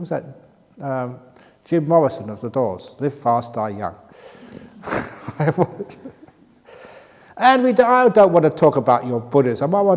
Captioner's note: laughs